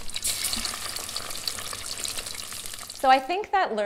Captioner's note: fire crackling